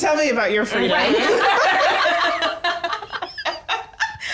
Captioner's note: all laughing